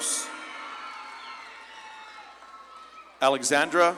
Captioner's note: audience claps and cheers